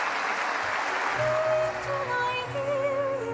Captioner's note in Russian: аплодисменты